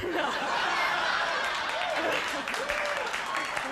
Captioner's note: crowd laughs